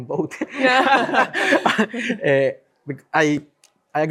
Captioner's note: all laughing